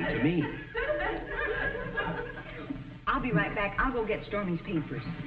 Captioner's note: audience laughing